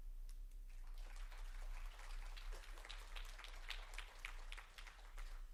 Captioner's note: audience clapping